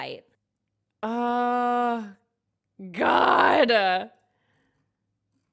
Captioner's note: exclaims